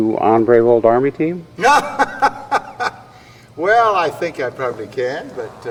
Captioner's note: laughs